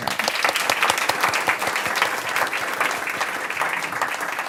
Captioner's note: audience applauds